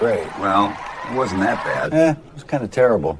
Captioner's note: crowd cheering